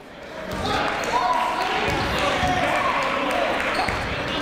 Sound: chatter

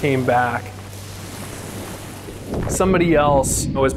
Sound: ocean rushing

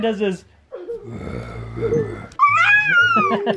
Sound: grunting

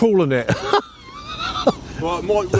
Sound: laughs

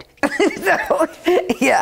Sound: laughing

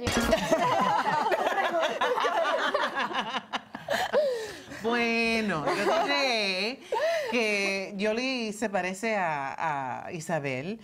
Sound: Risas

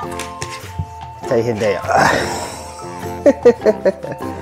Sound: laughs

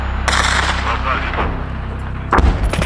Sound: radio exchange

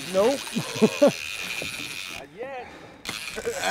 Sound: chuckling

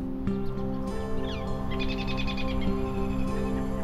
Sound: birds chirping

